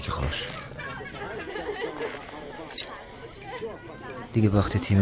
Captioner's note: people laughing